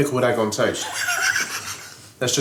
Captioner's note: laughs